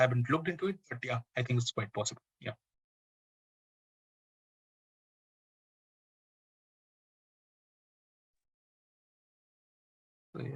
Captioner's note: pause